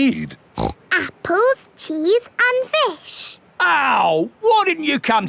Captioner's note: snorts